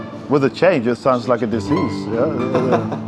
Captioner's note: sirens wailing